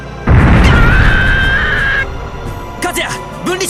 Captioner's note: pained cry